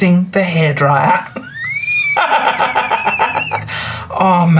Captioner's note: laughs